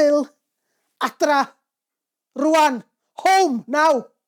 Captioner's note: in Welsh